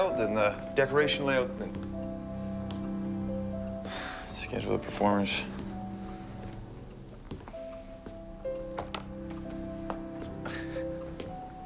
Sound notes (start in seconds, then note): 3.8 sighs; 7.8 light music